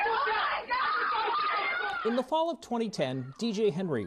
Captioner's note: yelling